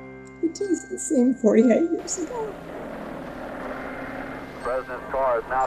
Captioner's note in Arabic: بكاء